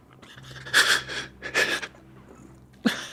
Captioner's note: sobbing